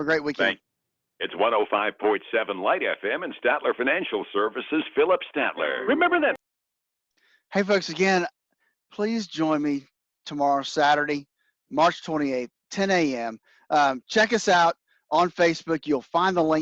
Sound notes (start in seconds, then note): 5.8 radio